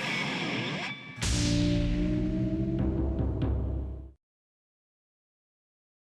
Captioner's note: drums thumping; logo ringing